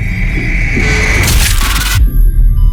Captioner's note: door slams, distorted screaming